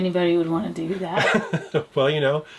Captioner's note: laughs